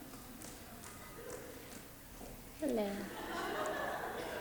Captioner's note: footsteps clicking; audience laughs